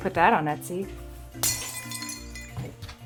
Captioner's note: glass breaking